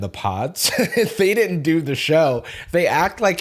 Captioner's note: laughs